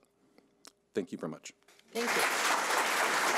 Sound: audience applauding

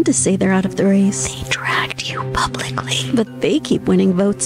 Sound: whispering

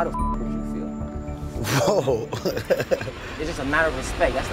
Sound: laughing

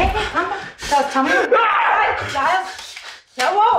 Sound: Giles screams

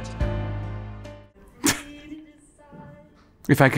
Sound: chuckles

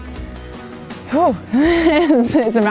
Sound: laughing

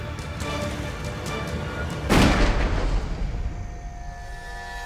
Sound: gunshot

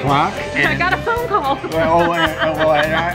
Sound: laughs

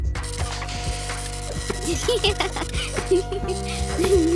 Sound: giggling

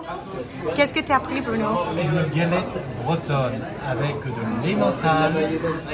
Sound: speaking in a foreign language

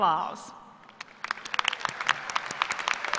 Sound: applause

